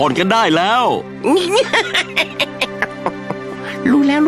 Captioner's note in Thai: หัวเราะ